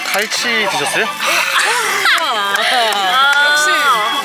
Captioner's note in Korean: 박수